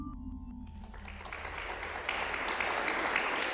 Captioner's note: applause